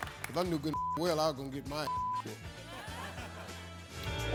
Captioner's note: beeping; funky music